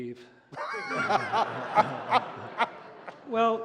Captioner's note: laughter